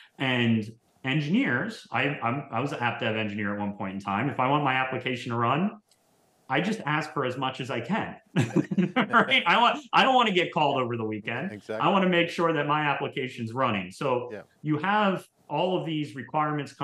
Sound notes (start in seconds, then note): 8.3 both laugh